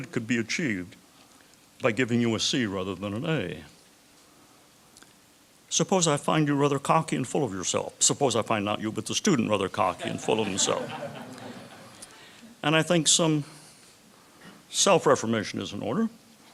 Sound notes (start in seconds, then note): 9.9 chuckles